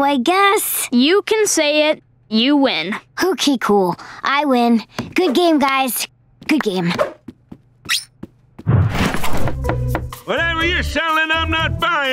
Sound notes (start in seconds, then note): 8.8 knocking